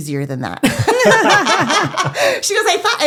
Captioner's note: laughing